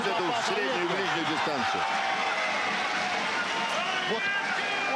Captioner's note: cheers